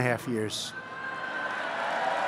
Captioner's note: applause